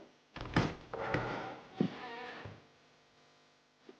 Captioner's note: door creaks